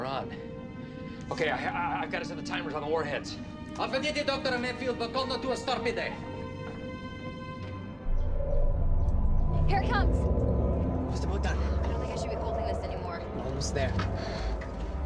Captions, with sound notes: Okay, I got us in the timers on the warheads! [speaks Russian] Here it comes! I'm just about done. I don't think l should be holding this anymore. Almost there.